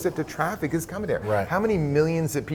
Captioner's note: laughing